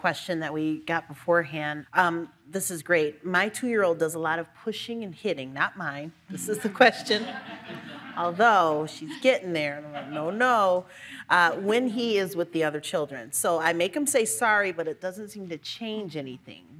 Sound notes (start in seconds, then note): 7.0 all laugh